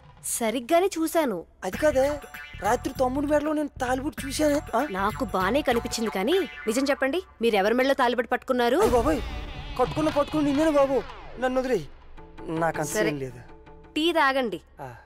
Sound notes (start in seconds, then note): none